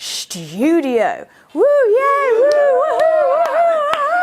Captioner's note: clapping and cheering